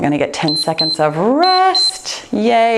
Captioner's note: timer beeps